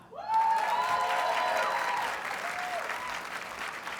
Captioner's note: audience cheers and applauds